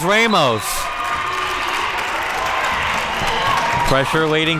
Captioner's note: whistle blows